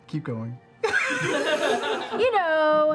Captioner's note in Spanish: risas